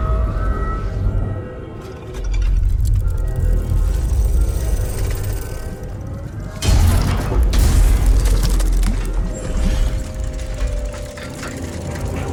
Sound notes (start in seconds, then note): 2.2 machine clinks; 9.5 dramatic music